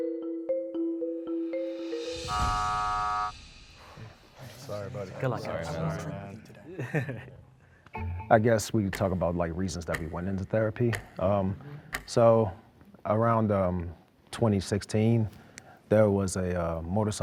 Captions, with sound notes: (buzzer sounds) - Sorry buddy. Good luck man. (clock ticking) - I guess we talk about like reasons that we went into therapy. So around 2016 there was a motorcycle accident